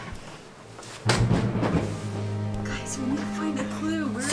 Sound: pillow plopping

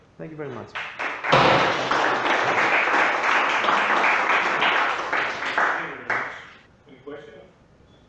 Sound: clapping

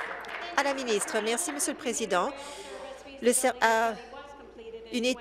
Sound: applause

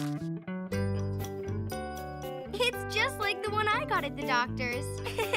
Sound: giggling

